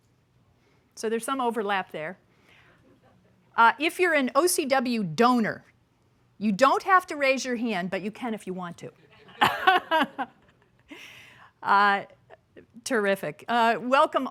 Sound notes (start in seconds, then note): 9.1 laughter